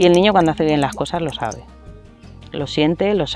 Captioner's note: sounds of bubbles